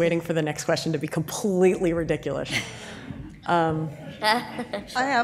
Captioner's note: audience laughs